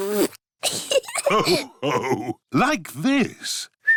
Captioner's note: blows raspberry; laughter; whistles